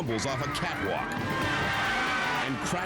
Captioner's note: crowd screams